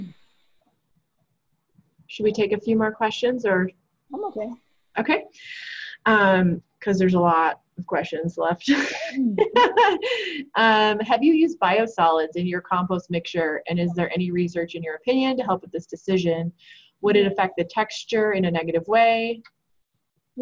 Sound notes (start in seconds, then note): 8.7 laughs